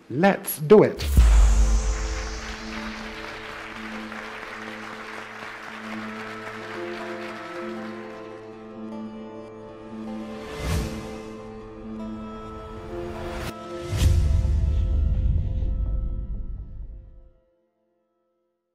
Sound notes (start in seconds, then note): 2.4 audience applauding; 8.3 foreboding music